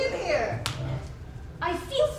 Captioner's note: snap